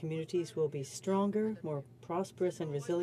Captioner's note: speaking french